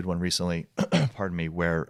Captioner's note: clearing throat